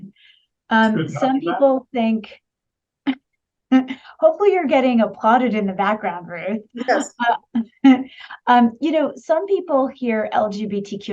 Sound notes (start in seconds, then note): 8.3 laughs